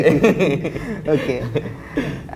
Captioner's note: chuckles